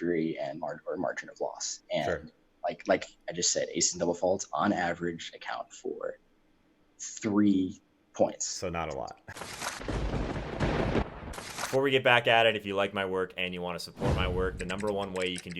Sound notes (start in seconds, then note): 9.4 lightning strikes